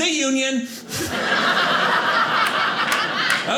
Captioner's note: audience laughing